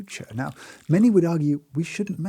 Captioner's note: liquid pours